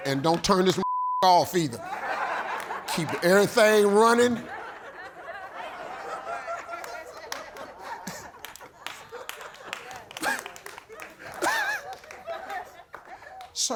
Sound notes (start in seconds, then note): 2.1 audience laughing; 4.8 audience laughing; 10.2 audience clapping